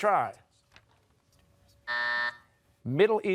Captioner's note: buzzer